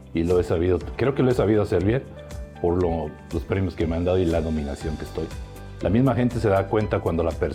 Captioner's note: continues speaking in foreign language